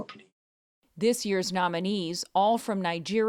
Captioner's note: voice-over